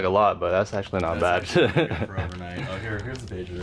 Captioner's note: chuckles